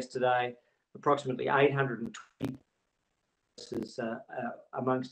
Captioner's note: audio distorts